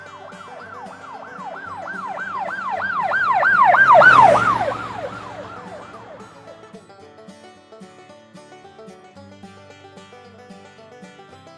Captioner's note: police car siren